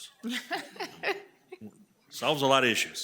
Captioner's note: board members laugh